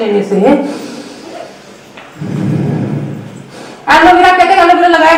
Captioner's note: breathes deep